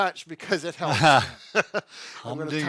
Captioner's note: both laugh